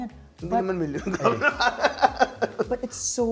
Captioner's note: chuckles